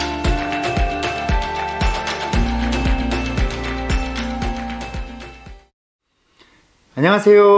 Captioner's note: clap